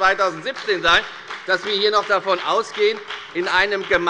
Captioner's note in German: Beifall bei der FDP